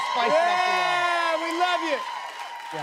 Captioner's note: cheers and applause